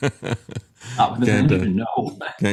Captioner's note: laughs